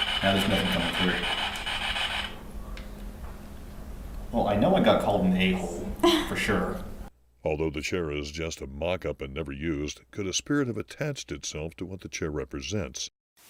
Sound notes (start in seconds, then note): 0.0 static buzzing